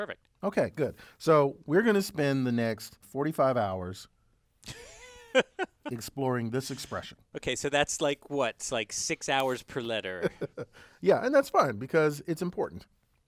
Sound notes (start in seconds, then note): 4.6 laugh; 10.2 laugh